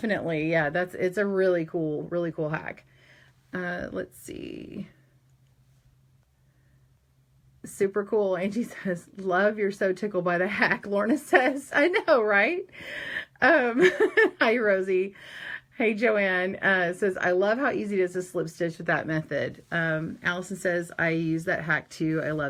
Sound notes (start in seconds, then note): 13.8 laughs